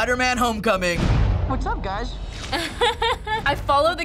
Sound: laughs

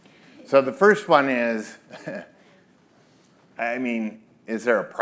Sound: chuckles

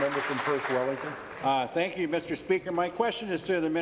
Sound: applause

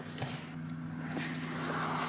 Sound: lifting sound

